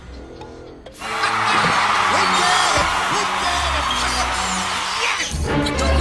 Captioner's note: screams, comedy whistles; crowd cheering